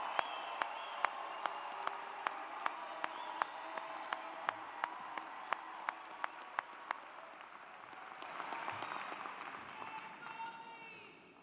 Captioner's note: cheers and Applause